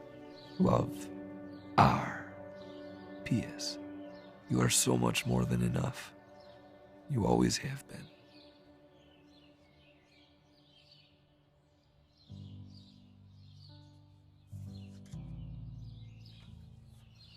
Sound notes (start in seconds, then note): 9.2 birds chirping; 12.9 soft music begins